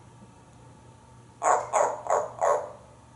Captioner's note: seal sounds